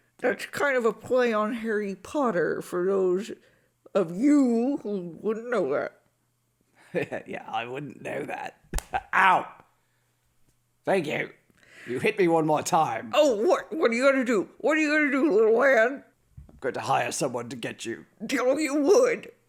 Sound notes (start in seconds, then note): 6.9 laughs; 8.7 smack